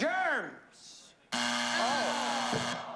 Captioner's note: buzzer